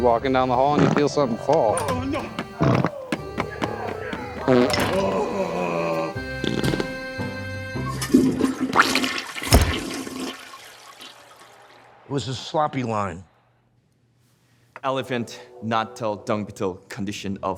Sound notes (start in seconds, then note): 4.4 flatulating and groaning; 8.0 toilet flushing